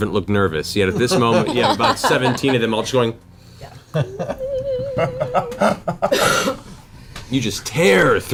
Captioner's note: high-pitched whine